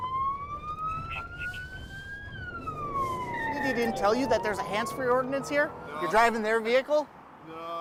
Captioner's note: siren